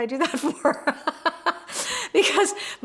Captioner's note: laughs